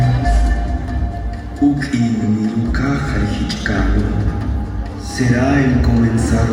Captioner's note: Mayan language speaking